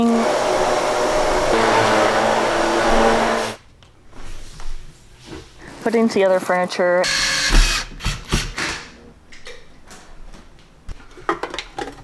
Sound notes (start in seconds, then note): 0.0 vacuum cleaner roars; 7.0 power drill whirring